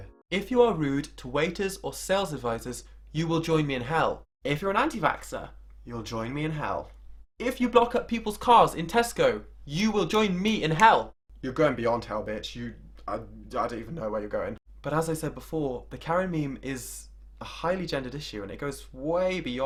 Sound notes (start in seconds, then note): none